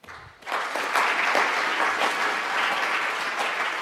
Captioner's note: applauding